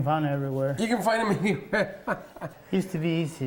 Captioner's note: laughs